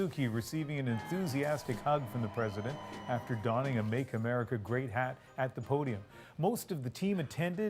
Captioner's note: cheers and Applause